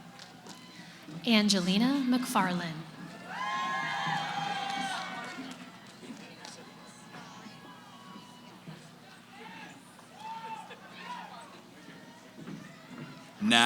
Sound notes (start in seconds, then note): 3.1 cheering; 5.6 background conversations